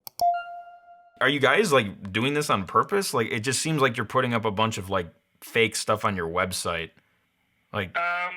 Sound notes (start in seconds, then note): 0.0 clicking sound